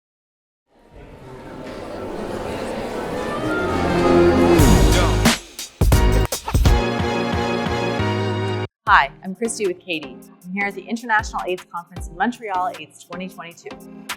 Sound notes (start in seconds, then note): 1.0 voices chattering; 4.8 bright music